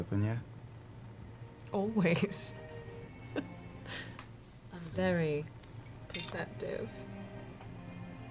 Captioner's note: chuckles